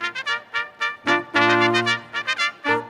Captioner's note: none